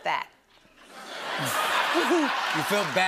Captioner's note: laughter